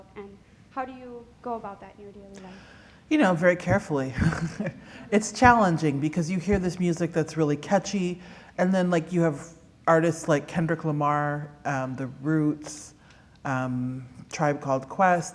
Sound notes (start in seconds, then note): 4.1 laughter